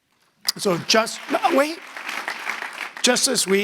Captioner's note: audience applauding